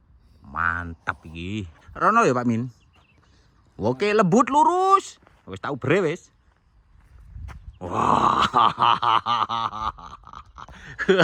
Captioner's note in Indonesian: tertawa